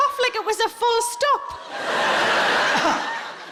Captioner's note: audience laughing; coughs weakly